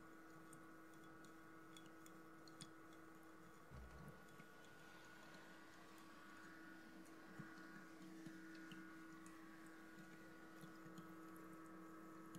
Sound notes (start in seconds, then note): 0.1 water Trickling